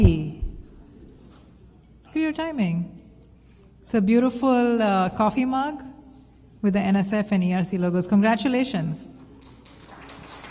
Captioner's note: applause